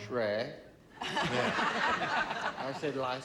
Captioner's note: laughter